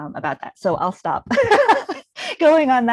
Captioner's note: laughing